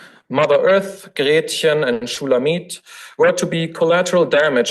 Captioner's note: foreign language